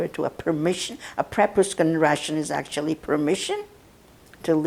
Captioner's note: russian